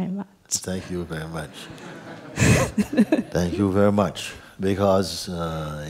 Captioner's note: γέλια